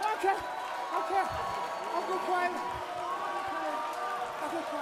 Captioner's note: cheers & applause